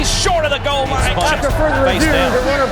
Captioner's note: voiceover